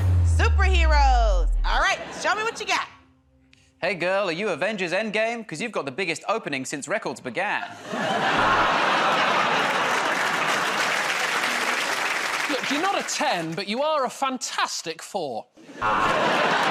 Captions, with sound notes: All right, show me what you got. -Hey, girl, are you "Avengers Endgame"? 'Cause you've got the biggest opening since records began. [ Buzzer buzzes ] [ Laughter and applause ] -Look, you're not 10, but you are a "Fantastic Four."